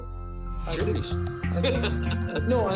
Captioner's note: laughter